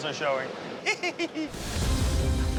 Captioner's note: giggles; dramatic music